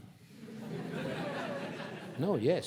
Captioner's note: audience laughing